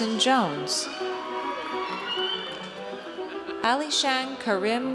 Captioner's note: audience cheers